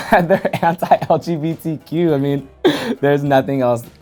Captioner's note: laughs